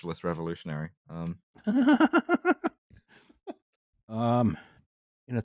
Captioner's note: laughs delightedly